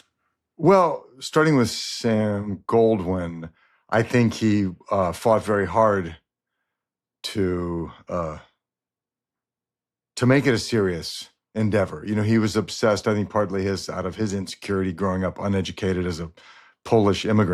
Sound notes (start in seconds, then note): none